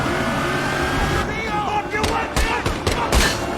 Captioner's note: gunshots